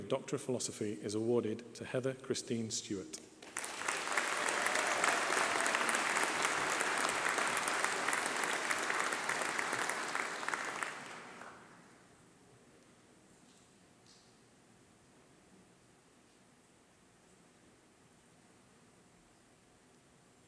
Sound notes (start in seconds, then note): 3.5 applause